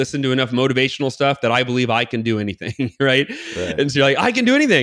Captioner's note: laughs